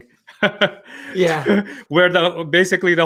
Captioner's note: chuckles